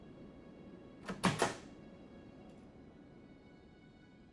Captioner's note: door closes